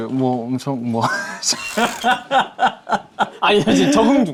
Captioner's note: ji-hoon is stuttering